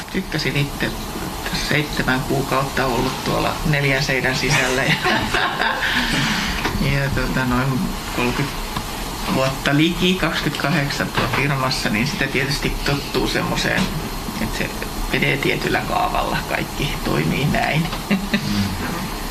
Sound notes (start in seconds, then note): 4.4 naurua